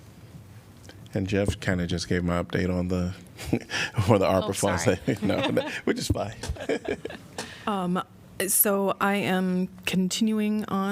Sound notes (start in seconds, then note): 6.4 laughter